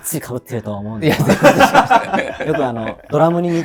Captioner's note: laughing